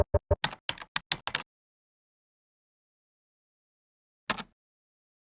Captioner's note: keyboard keys clicking